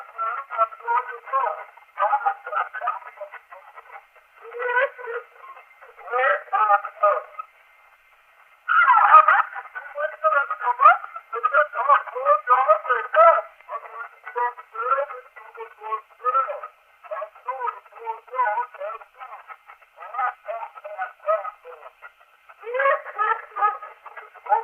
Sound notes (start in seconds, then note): 2.0 laughing; 19.7 laughing